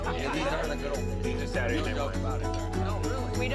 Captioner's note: chattering